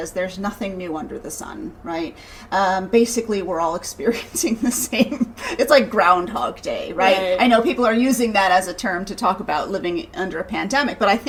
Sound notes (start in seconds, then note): 4.8 laughing